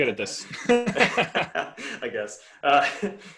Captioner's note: laughing